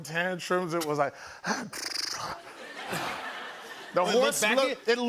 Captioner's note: mimicking horse noises